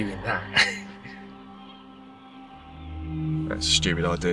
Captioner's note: Clive chuckling